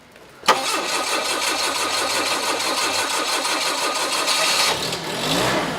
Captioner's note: forklift engine revving